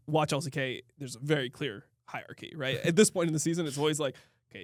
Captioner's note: laughs